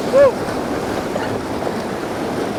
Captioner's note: rushing water